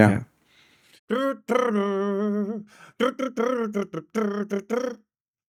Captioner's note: humming